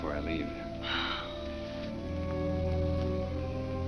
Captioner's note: Ruth sighs